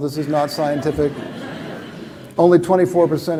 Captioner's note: laughter